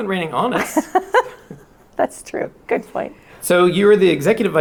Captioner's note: chuckles